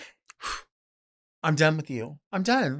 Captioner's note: mouth blowing